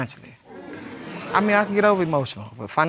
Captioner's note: audience exclaiming